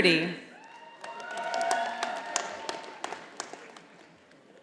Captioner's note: audience applauding